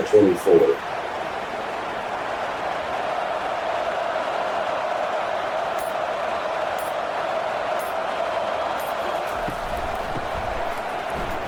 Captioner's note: crowd Noises